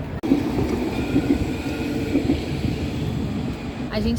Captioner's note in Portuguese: barulho de trem